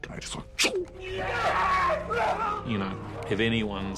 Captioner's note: shouting